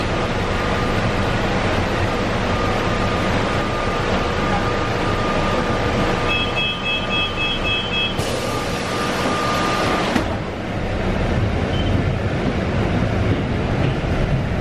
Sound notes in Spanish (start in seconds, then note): 6.1 apertura de puertas y sonido del bus